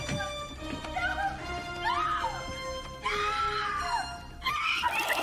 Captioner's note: screaming